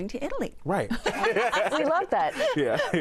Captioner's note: all laugh